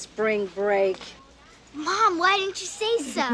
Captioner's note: laughs